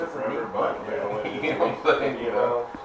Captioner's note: chuckle